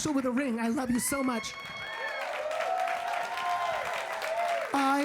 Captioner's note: audience cheering